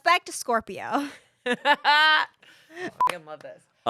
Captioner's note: laughs; beep